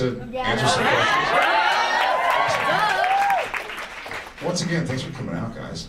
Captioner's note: audience cheers